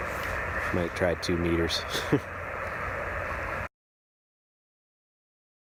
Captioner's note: laughs